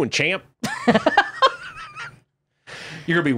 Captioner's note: laughing